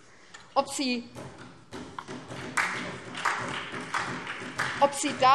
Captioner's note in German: Beifall SPD